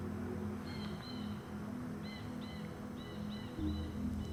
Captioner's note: bird cawing; gentle music